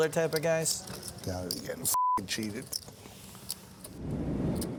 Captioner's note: beep